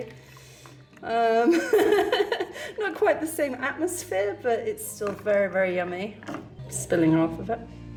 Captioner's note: laughing